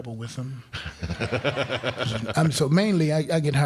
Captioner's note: crowd laughing